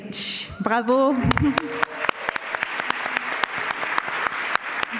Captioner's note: applause